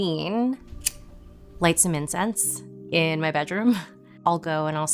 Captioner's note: lighter clicks